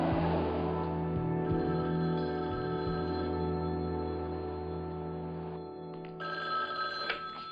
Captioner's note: telephone rings